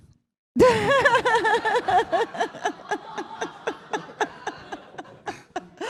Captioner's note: laughter